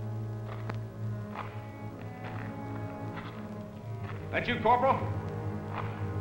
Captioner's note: foot Steps